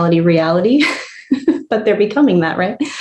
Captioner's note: laughs